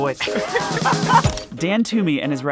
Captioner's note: group laughing